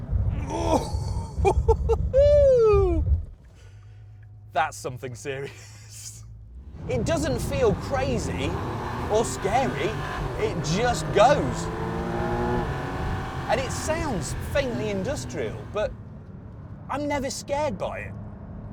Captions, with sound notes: (CHUCKLES) That's something serious. It doesn't feel crazy or scary. It just goes. And it sounds faintly industrial, but I'm never scared by it.